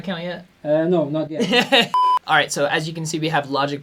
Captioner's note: laughs